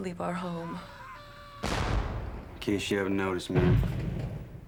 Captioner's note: screaming and cannon fire